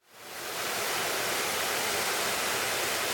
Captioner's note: water rushing